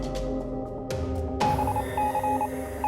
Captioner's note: morse code beeps